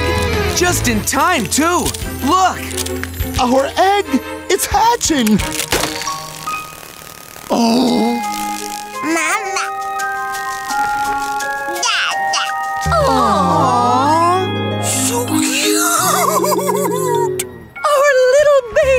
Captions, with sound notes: Just in time too. Look. Our egg, it's hatching. [egg hatching] Aw. Mama. Dada. [awwing] So cute. Our little baby.